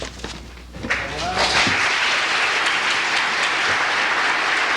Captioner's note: applause